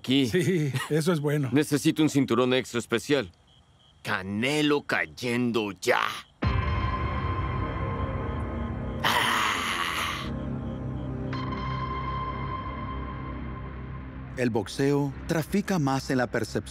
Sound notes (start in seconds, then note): 8.7 mÚsica dramática; 11.0 gruñe